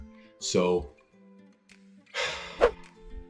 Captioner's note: breaths